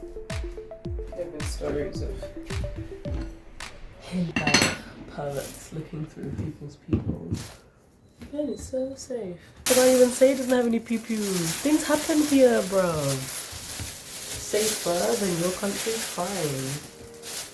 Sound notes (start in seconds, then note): 8.3 mocking tone